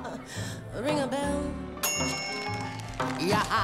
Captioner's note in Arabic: صوت صفير الميكروويف